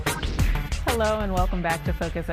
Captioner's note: transition whooshing